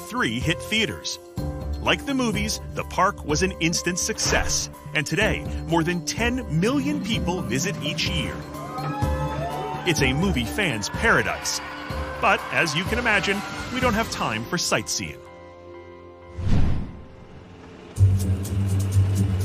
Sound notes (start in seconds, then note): 8.7 crowd cheering; 16.3 dramatic music playing